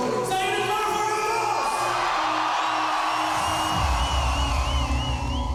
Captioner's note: audience cheering